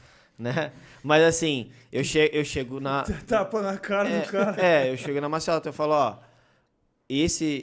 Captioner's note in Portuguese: Risos